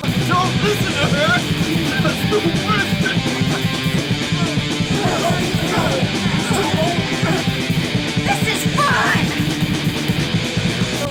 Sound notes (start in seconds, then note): 4.7 all grunting; 4.7 loud rock music; 9.5 loud rock music